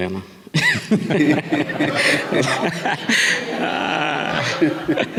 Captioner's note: audience laughing